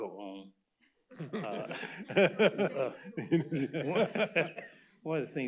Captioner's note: laughter